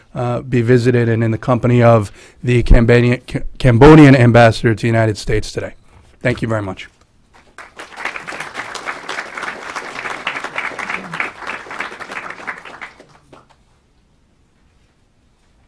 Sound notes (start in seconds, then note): 7.3 clapping